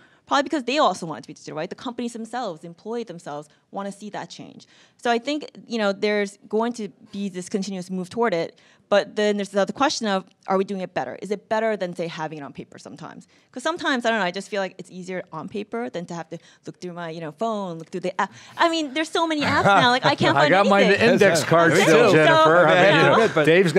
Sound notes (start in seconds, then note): 19.4 laughing